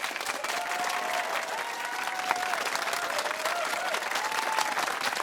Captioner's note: cheers and applause